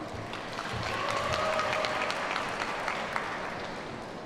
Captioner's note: audience applauds